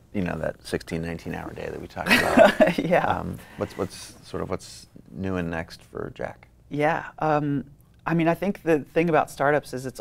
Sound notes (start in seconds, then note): 2.0 laughs